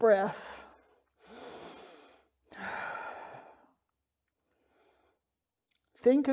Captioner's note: deep breath